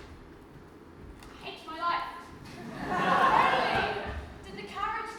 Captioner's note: audience laughs